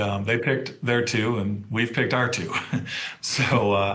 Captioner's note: chuckles